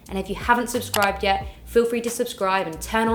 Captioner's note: mouse clicks